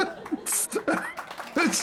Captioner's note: laughing